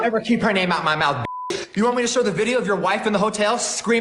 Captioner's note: beep